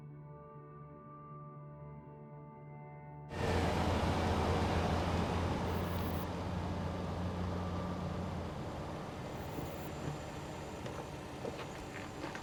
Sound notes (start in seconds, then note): 3.2 car rumbling